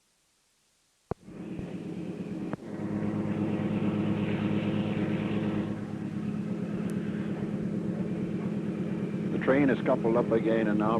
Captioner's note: sound of train moving